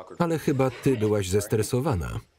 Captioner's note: Ara laughs